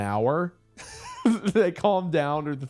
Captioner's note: laughs